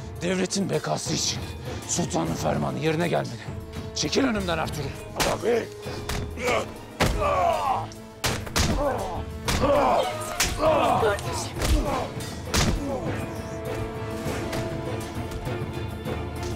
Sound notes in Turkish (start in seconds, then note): 6.3 İnilti sesi; 8.0 Darp sesleri; 12.1 Darp sesleri